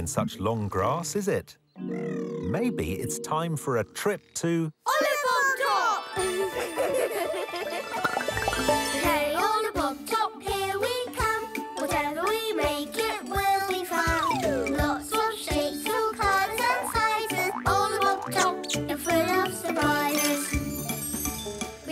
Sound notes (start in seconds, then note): 6.3 laughing